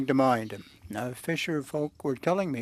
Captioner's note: speaking French